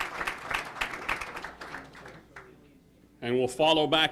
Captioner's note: applause